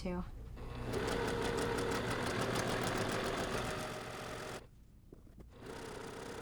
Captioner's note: sewing machine churning